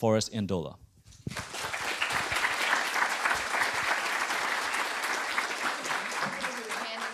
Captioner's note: audience applauding